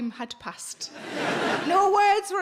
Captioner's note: audience laughing